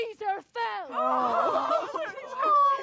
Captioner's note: sobbing